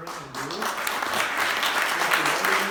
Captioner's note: applause